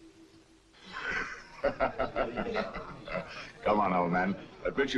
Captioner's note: gentle celestial music; laughs